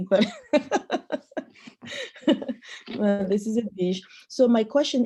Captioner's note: laughs